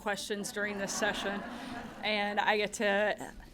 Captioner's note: laughter